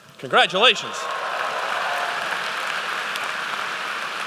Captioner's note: applause